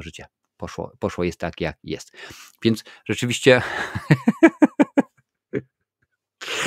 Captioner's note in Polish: śmiech